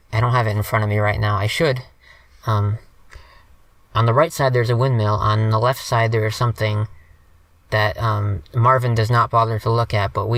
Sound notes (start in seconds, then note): none